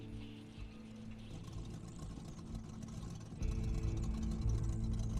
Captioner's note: motor sputtering